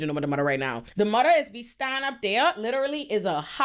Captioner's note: none